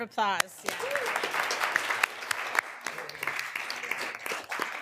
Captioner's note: room applauding